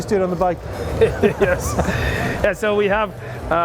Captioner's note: laughs